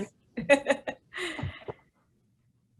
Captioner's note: laughs